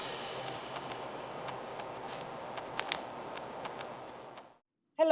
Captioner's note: speaker static hisses